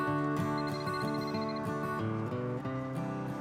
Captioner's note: phone rings